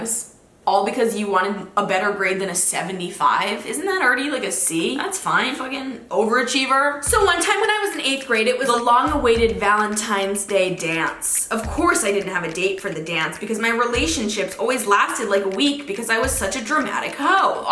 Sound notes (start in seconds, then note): none